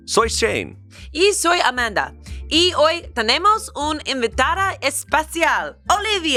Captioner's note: speaks in foreign language